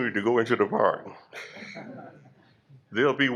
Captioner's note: laughter